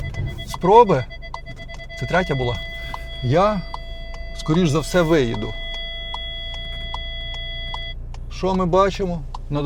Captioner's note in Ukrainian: дзвін